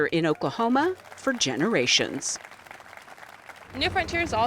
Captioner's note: audience claps